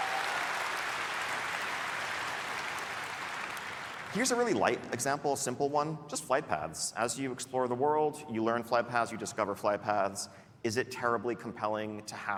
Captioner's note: applause